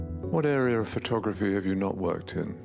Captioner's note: voiceover